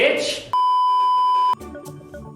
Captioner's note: beeeeeeeeeeeep